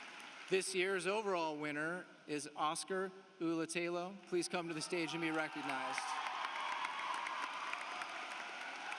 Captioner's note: applause